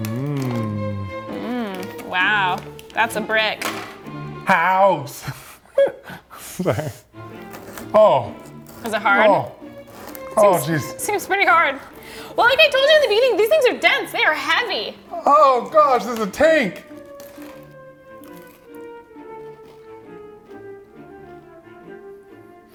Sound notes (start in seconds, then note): 6.4 chuckling; 17.0 Takis crunching; 17.0 gentle classical music